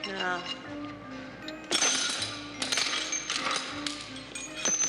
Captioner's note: metal clattering